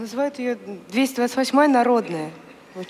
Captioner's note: foreign Language